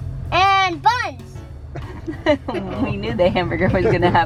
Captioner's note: laughter